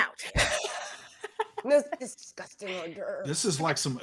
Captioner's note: laughs